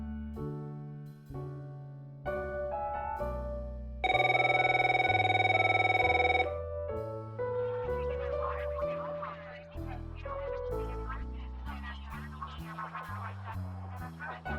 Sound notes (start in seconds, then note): 4.0 phone rings